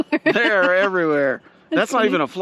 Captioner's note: laughing